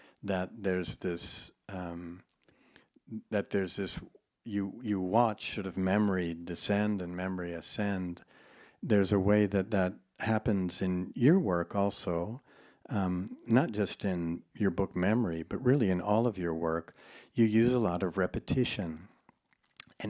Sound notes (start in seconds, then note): none